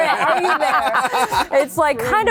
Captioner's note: laughter